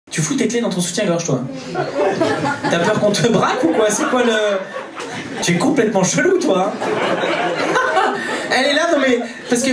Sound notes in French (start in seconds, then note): 1.6 rires public